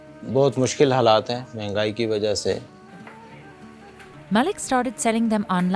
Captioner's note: speaking foreign language